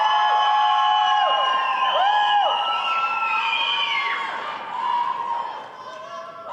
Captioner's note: cheering and applause